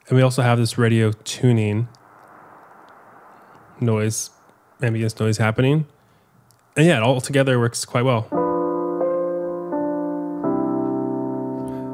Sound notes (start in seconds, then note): 2.5 soft static playing; 8.3 gentle piano music